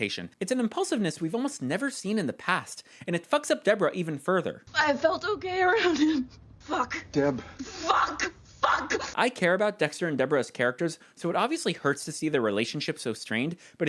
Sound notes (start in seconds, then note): 4.9 crying; 7.6 yelling